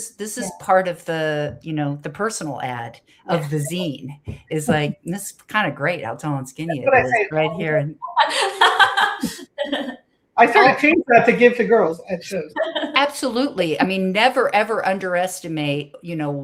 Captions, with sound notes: This is part of the personal ad of the zine. It's great. I'll tell on Skinny right here. [laughter] I think that's a gift to girls, I suppose. Absolutely. Never, ever underestimate